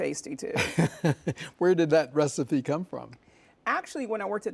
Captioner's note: laughs